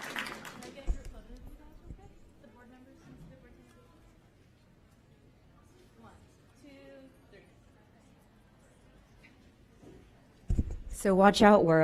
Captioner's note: applause